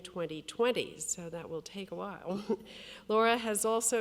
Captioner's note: chuckles